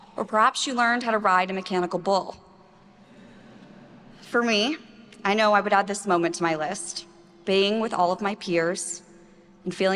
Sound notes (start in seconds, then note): 3.0 attendees laughing